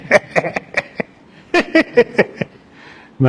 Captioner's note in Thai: เสียงหัวเราะ